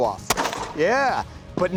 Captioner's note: gun fires